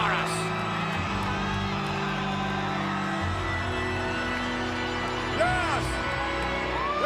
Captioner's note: crowd cheering; dramatic music